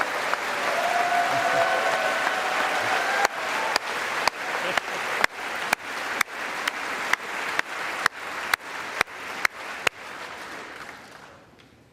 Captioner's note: applause